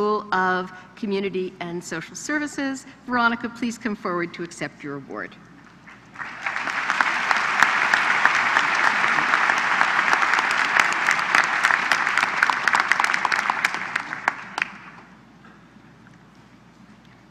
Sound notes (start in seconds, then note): 6.1 applause